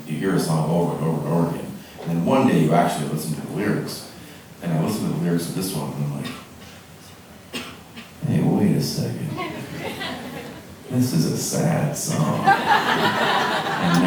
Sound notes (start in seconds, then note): 9.3 audience laughing